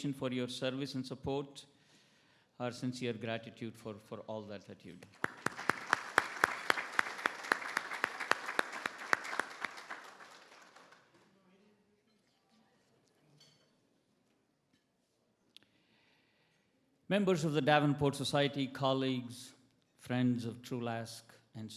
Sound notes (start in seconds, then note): 5.1 everybody applauds; 13.2 cutlery clacking